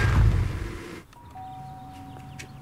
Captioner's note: engine stops; doorbell rings